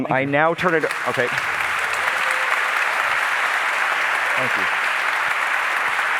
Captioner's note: applause